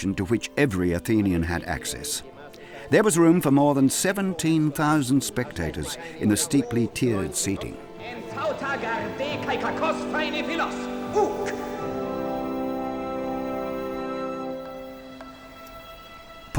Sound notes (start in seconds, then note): 8.4 people shouting in Greek; 11.9 awe-inspiring music